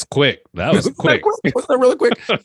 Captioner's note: laughs